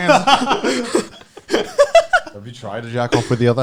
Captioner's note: all laughing